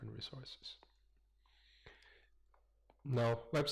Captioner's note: pause